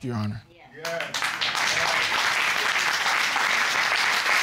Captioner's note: audience applauding